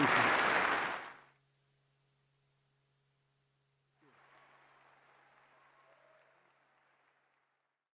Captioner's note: applause